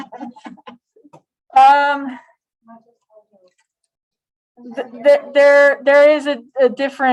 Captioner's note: laughter